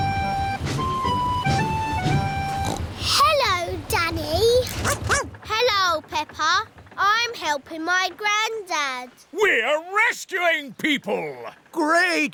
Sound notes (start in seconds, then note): 2.5 snorts; 4.8 barks